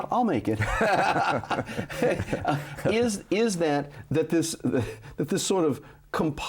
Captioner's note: both laughing